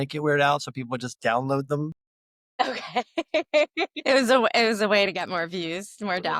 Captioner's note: laughs